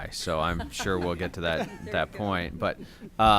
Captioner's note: laughter